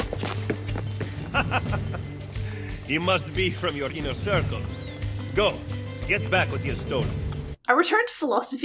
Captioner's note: chuckle